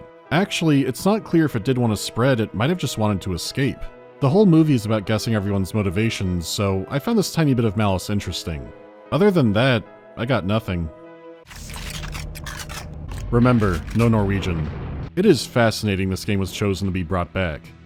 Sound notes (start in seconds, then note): 11.5 clicking of weapons getting readied